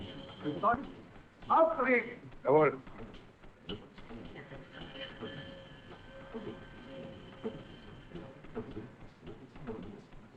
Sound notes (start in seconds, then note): 0.1 speaking in german; 4.0 machine working